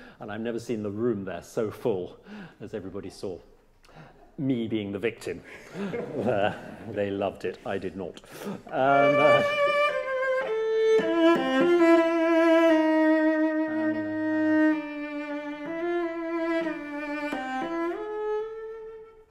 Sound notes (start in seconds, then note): 5.4 laughter; 8.7 passionate cello and piano music